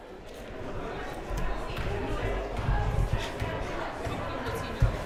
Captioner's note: crowd murmuring